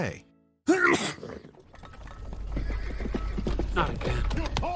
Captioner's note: sneeze; hooves approaching